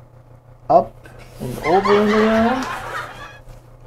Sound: laughter

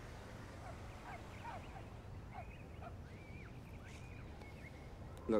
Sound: dog barking

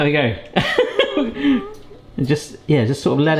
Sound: laughs

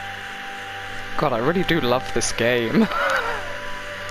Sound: laughs

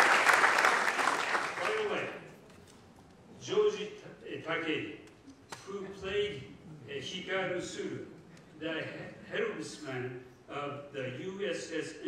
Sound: laughter and applause

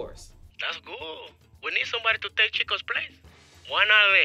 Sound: voiceover

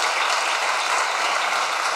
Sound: applause

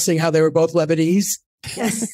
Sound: laughing

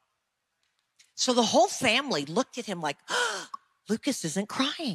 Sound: shrieking

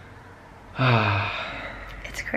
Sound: sigh

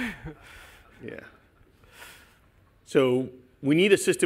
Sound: laughter

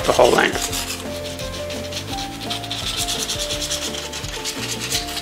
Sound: sandpaper scratching metal

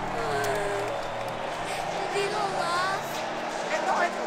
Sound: crying

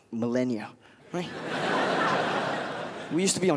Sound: crowd laughs

